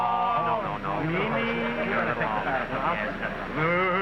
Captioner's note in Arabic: همهمات سخيفة